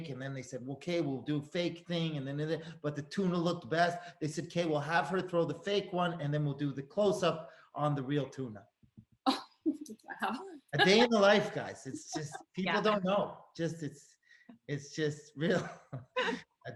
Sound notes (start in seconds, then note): 10.7 laughs; 15.6 Tim chuckles